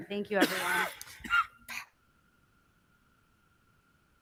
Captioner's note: person coughs